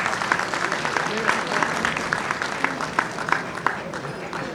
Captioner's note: audience applauding